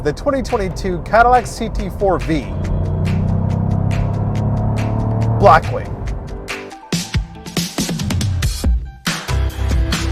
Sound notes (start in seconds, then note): 2.2 engine revs; 6.9 upbeat, chill music